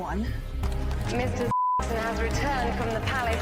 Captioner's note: over intercom